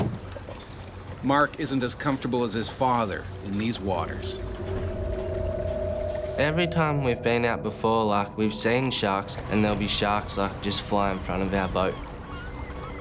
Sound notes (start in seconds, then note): 1.2 voiceover